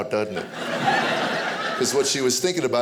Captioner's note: audience laughing